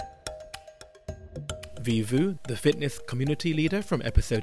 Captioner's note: voiceover